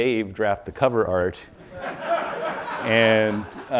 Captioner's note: audience laughing